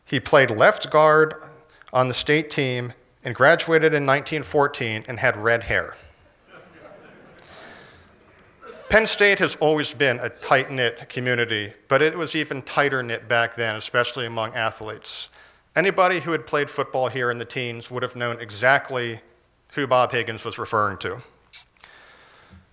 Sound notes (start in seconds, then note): 6.2 laughter